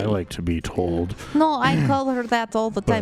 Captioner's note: clears his throat